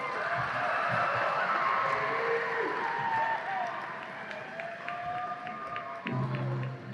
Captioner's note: audience applause and and cheers